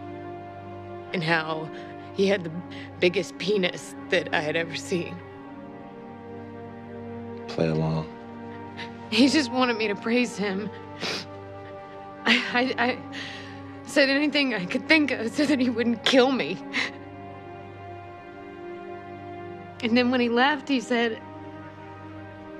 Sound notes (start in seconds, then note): 10.9 sniffles